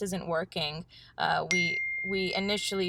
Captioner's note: email chime